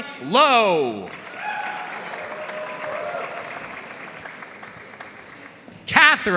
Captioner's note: audience cheering and applauding